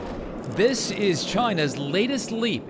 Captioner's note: voice-over